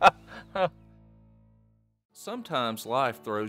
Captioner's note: laughing